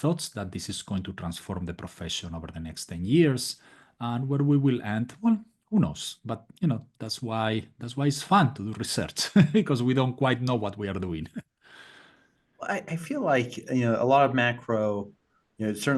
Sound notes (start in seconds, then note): 9.4 laugh